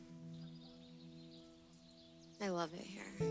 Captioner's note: birds chirping